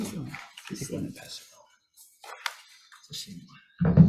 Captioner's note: group muttering